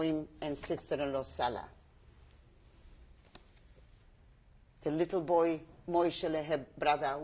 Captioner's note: pauses for 3 seconds